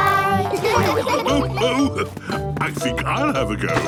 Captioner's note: laughs